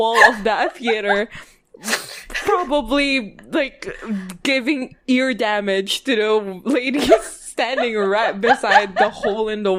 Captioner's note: laughing